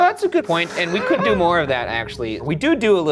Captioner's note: Shane laughing